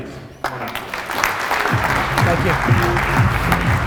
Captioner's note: audience applause